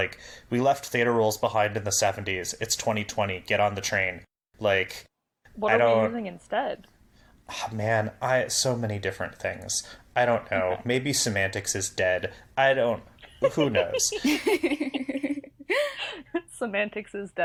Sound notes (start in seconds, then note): 13.3 laugh